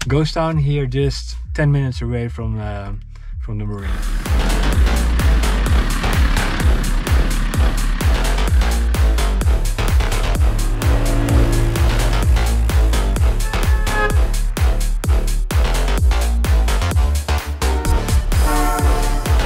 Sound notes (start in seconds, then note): 4.7 upbeat electronic music; 13.8 cars passing; 13.8 upbeat electronic music